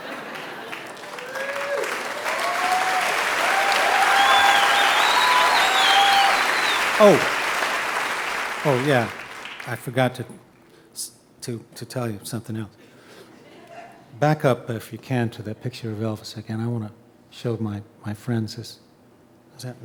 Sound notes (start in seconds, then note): 0.0 audience laughing; 2.2 audience cheering